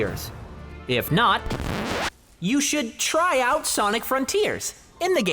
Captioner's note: record scratch